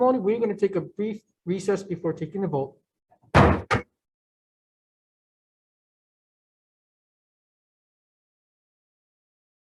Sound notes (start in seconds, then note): 3.3 gavel bangs